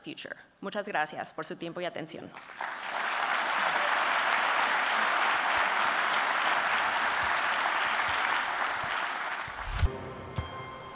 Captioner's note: applause